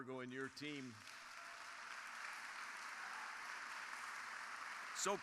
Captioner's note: crowd applauding